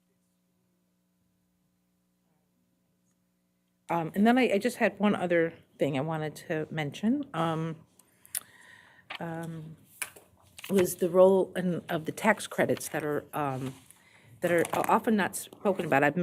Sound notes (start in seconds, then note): 1.4 audio drops